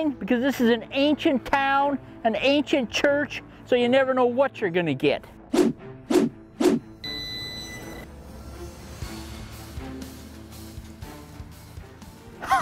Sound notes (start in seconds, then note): 7.0 beeping; 10.0 intense music